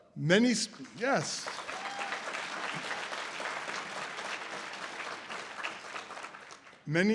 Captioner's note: audience applause